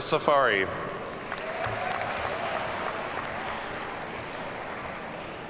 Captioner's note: audience cheers and applauds